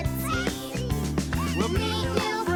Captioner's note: babbling